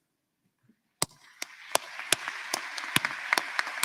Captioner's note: applause